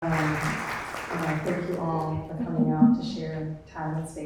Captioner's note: audience applauding